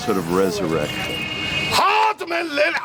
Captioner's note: non-english speech